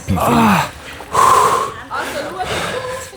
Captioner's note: heavy breathing